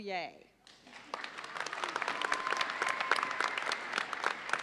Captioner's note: audience applauds